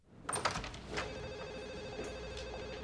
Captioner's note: phone ringing